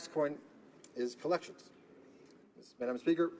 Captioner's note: speaking in french